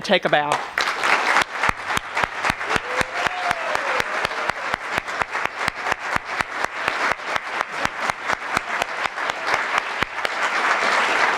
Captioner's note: applause